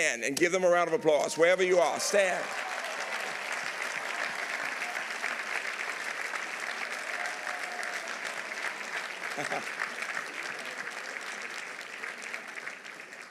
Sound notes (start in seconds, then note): 3.7 audience applauding; 9.3 chuckles